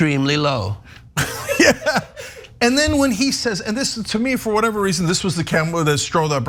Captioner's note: laugh